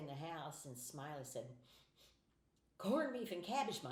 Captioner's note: sniffing